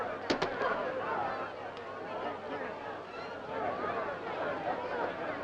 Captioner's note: crowd chattering